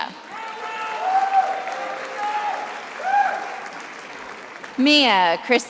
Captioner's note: attendees applauding